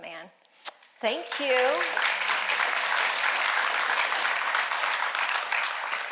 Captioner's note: audience applauding